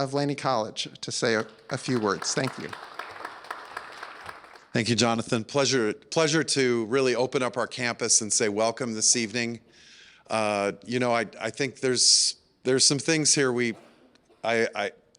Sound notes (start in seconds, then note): 3.0 applause